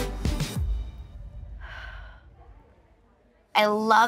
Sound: sighs

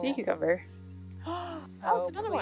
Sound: woman gasping

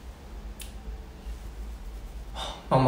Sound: scratching

